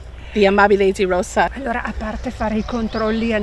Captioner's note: speaking Italian